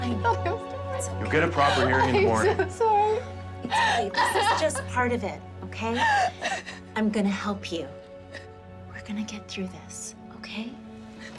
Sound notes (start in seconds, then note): 3.7 crying uncontrollably